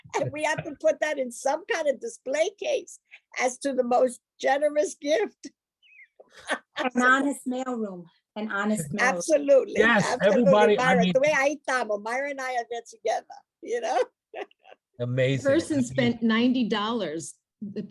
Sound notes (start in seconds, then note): 6.2 laughs; 11.1 speaking foreign language; 13.8 laughs